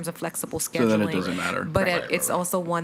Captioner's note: speaks faintly